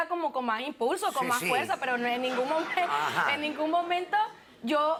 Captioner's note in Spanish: Risas